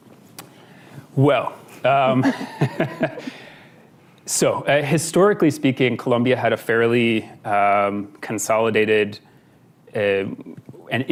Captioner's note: laughs